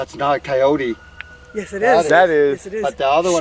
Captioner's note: animal howling